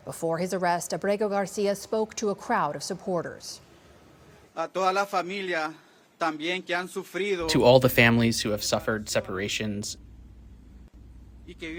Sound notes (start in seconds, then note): 7.9 through translator